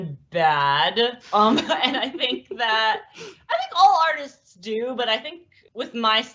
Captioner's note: laughs